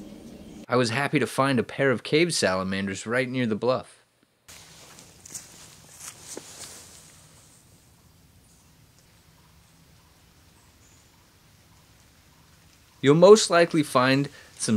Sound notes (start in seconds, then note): 4.5 footsteps on leaves; 8.0 birds singing